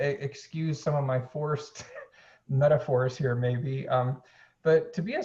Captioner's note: chuckles